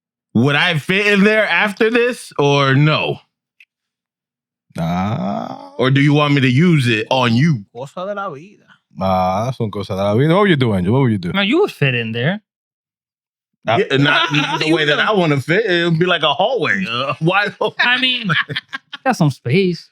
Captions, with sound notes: would I fit in there after this? Or no? Nah. Or do you want me to use it on you? (Speaking In Foreign Language) What would you do, Angel? What would you do? No, you would fit in there. Not the way that I wanna fit, it would be like a hallway. Why? (Laughing) I mean, you got some space.